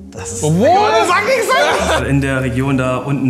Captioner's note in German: Lachen